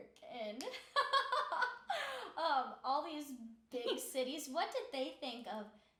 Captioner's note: laughing